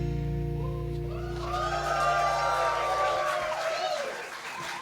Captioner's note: audience cheers